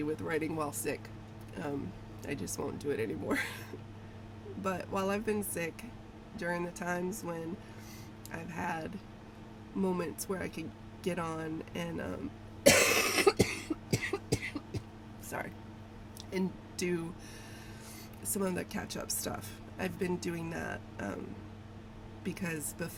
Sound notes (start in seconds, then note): 3.3 laughs; 12.6 coughs